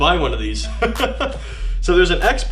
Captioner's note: laughing